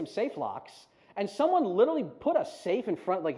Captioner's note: none